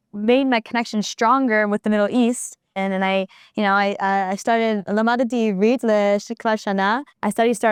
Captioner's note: in Hebrew